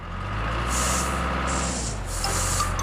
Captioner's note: engine Running